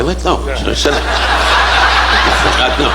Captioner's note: audience laughing